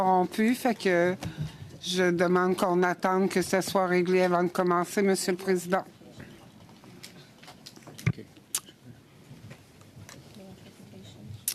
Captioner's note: speaking French